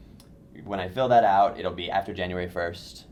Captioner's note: voiceover